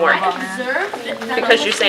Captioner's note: chatter